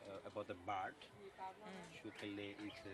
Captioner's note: background voices